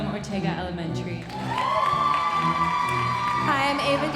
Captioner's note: audience cheering and applauding